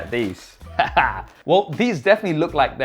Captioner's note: laughing